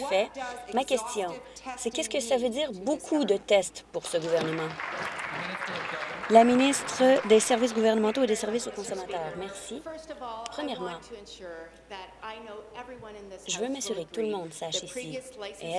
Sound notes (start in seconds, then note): 7.0 applause